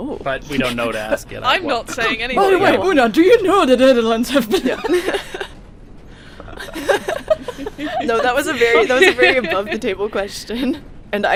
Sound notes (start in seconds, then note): 6.4 laughs